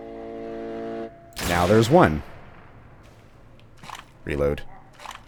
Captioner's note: bam